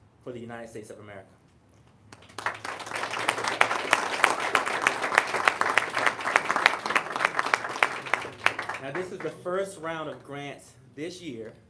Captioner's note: applause